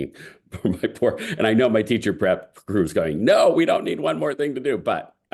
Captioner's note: laugh